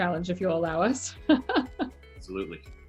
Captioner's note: laughs